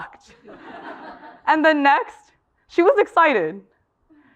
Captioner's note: laugh